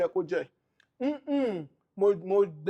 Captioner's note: none